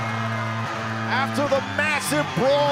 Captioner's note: crowd cheering